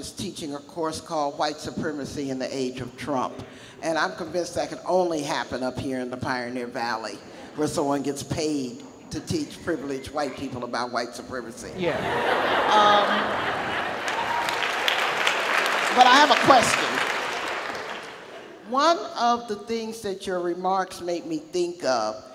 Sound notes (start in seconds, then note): 11.8 audience laughs; 14.3 audience applauds